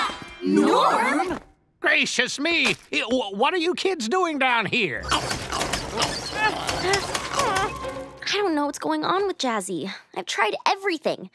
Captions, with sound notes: Norm?! Gracious me! What are you kids doing down here? [growling] I don't know what's going on with Jazzy. I've tried everything.